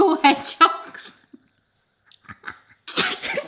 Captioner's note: laughs; laugh